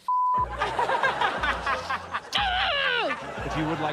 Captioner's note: laughs; screams